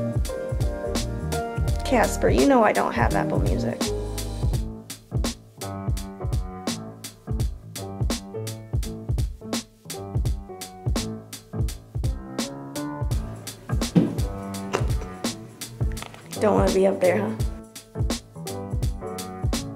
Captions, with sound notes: Casper, you know I don't have Apple Music. (Casper thudding) Don't wanna be up there, huh?